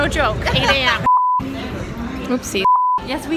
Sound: beeps

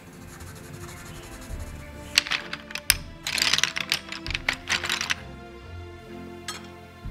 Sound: pencils roll against each other

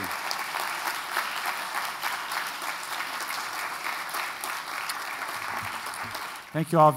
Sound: applause

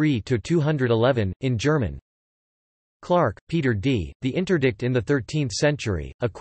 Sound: in German

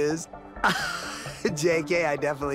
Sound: laughing

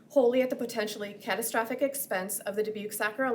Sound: none

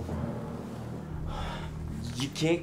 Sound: sighs

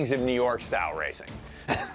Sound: laughs

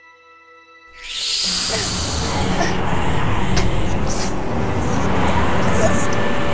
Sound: hissing; ghostly whispers

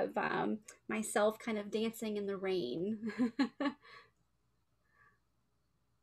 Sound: laughs

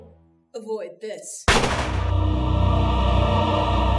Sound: gunshot

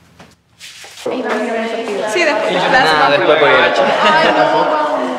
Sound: indistinctive chattering

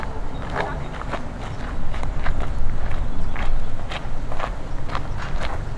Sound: footsteps sound

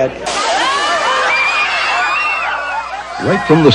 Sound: children screaming

